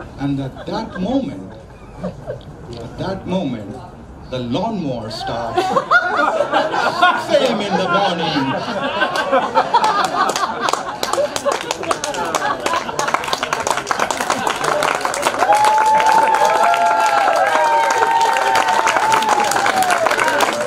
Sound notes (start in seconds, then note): 5.8 crowd laughs; 8.9 crowd laughs and claps; 15.9 crowd cheers